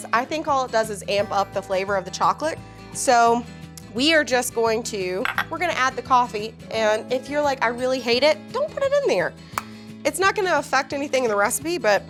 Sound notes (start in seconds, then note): none